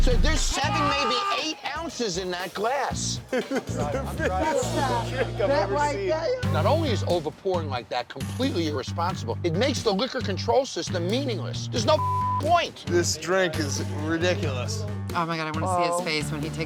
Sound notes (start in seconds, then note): 3.2 laughing; 11.9 beep